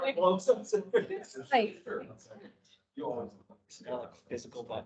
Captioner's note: indistinct chatter